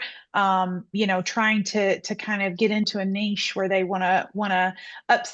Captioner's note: none